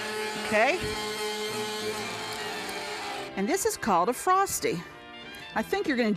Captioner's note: blender whirring stops